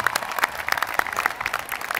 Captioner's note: applause